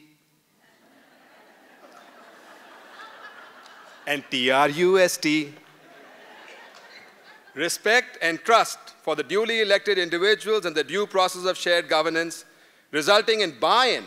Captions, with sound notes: [ LAUGHTER ] AND T-R-U-S-T. [ LAUGHTER ] RESPECT AND TRUST FOR THE DULY ELECTED INDIVIDUALS AND THE DUE PROCESSES OF SHARED GOVERNANCE, RESULTING IN BUY-IN